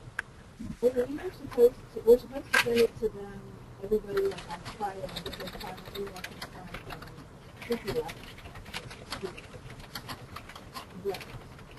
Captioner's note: mumbling/typing